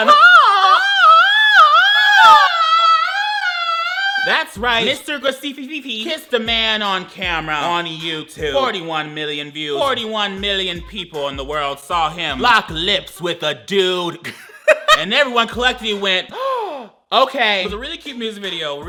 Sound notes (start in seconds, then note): 0.0 whimpers; 14.2 laughs; 16.3 gasps